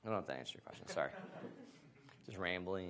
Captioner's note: audience laughs